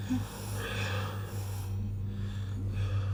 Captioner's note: sharp exhales